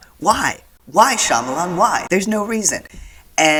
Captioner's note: echoing